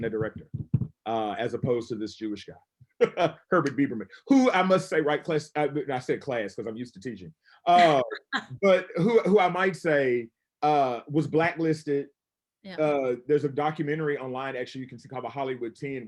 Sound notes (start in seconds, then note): 4.3 laughs; 7.8 laughs